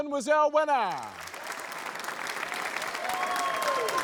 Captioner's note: applause